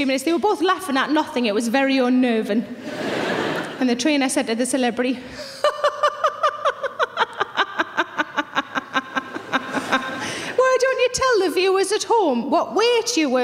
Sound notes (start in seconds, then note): 2.8 audience laughing; 5.6 laughs